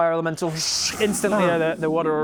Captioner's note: whoosh